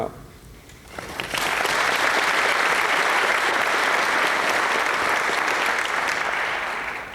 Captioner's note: applause